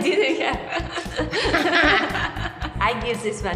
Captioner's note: both laughing